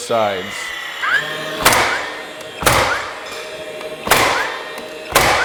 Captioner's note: nail gun shooting